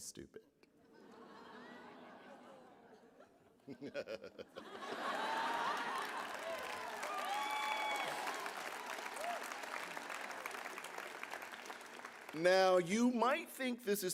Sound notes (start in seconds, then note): 8.2 applause; 9.4 laughter